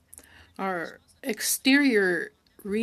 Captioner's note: speaking French